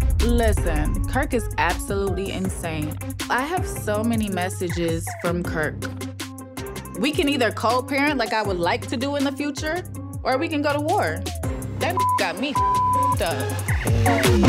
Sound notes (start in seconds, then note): 11.9 beep; 13.4 upbeat music